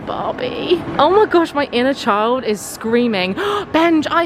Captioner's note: gasps